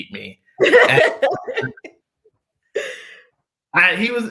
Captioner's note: laughter